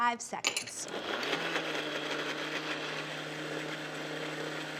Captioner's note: blender whirs